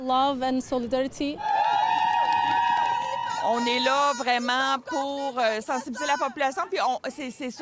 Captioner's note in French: exclamations